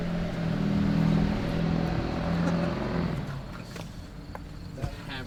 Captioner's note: car engine roaring